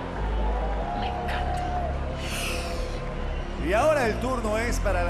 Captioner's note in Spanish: Inhala